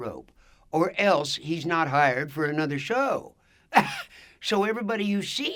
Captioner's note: laughs